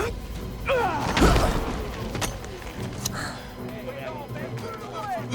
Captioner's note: fighters grunting